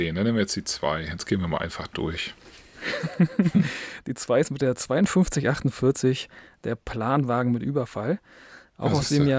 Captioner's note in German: gelächter